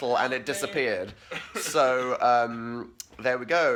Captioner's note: coff